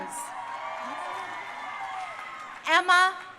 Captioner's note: crowd cheering